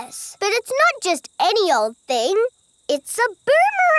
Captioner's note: none